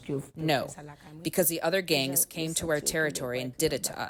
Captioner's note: through translator